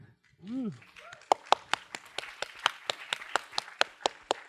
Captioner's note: applause